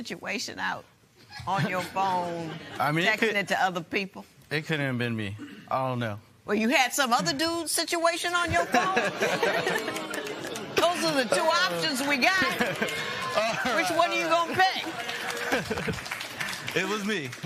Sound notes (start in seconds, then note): 8.4 laughter